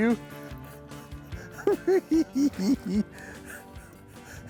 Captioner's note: chuckles